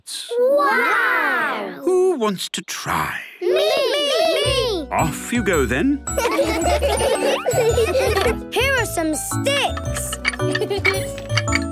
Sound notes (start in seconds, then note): 6.1 laughter; 10.5 laughing